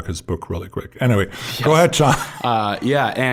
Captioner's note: chuckling